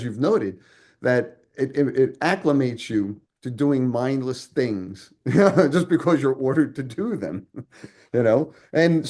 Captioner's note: chuckles